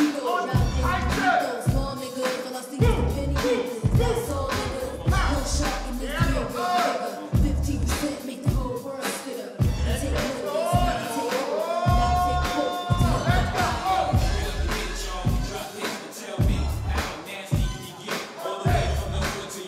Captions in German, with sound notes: Und halten! (Flotte Hip-Hop-Musik) (Anfeuernde, untermalende Rufe) Sehr gut! (Er ruft etwas Anfeuerndes.) (Flotte Hip-Hop-Musik)